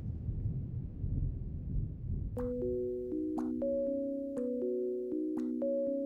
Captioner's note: water dripping rhythmically